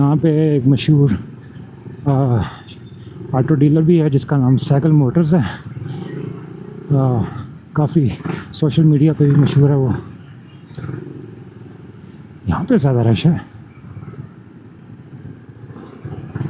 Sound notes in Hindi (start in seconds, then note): 8.2 गला साफ़ करने की आवाज़